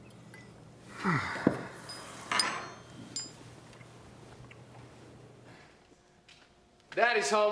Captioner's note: Sam sighs; utensils clanking